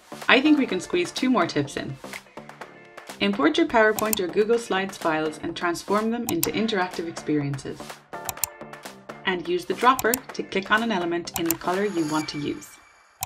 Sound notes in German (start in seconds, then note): 8.2 Klicken